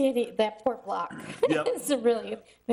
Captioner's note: laughing